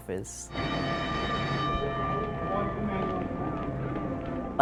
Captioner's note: bell rings